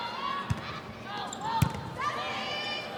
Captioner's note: ball thumping; players shouting indistinctly